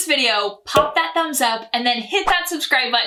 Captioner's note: bubble popping